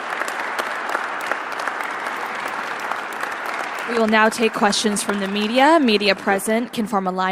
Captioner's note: applause